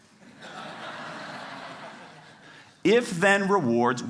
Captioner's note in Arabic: ضحك